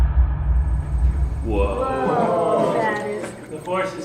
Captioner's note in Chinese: 驚嘆聲